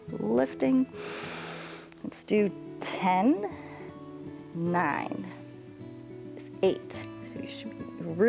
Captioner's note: inhales